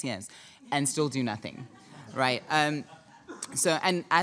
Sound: audience chuckling

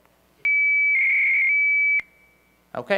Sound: modem shrieking

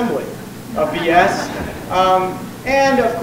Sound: audience laughs

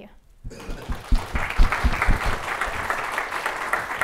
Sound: applause

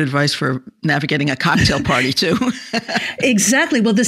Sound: chuckles

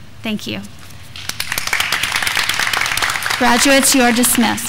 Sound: graduands clapping

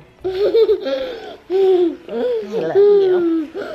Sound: laughs

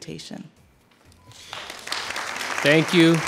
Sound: audience applauding

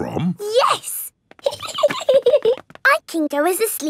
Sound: giggling

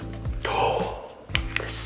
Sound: dad gasps

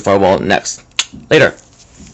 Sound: clicks mouth

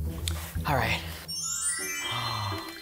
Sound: sprinkles sparkling; gasps

